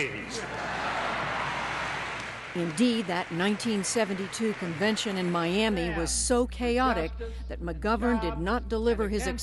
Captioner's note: laughter